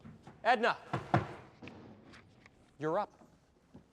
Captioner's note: taps foot